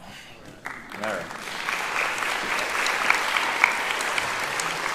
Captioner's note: applauding